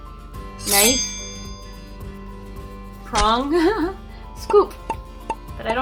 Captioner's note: giggles